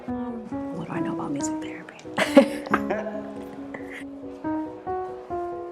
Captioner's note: laughs